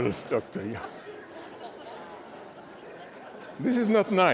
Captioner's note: laughter